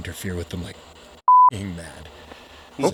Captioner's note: beep